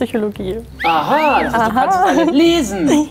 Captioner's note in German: Pfeifen